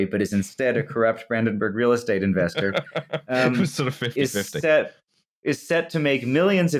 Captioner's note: laughing